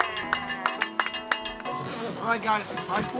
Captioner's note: cowbell